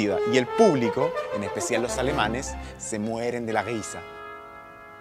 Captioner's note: imitating the German accent